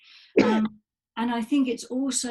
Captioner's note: coughs